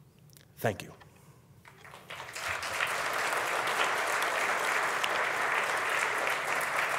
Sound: audience applauding

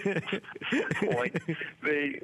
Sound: laughter

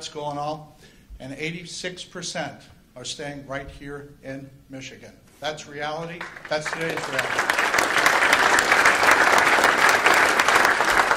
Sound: applause

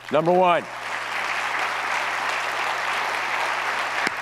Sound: audience applauds

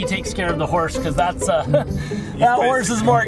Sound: chuckles

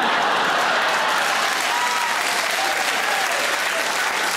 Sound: audience laughs and claps

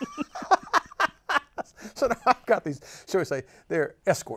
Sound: laughs

